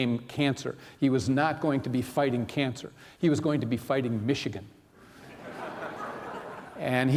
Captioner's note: laughter